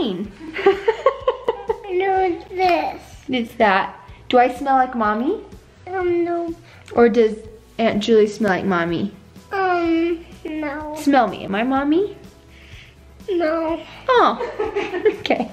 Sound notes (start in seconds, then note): 0.4 laughs; 12.5 sniffs; 14.2 laughs